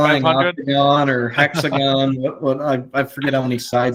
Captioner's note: chuckling